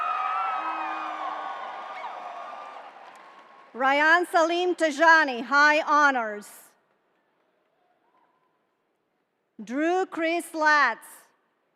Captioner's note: cheering